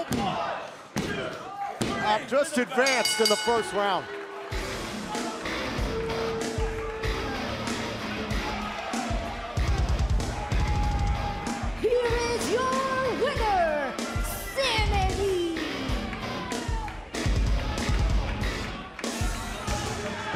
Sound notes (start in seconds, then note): 6.0 bell ringing